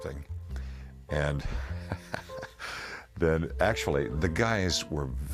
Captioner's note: laughing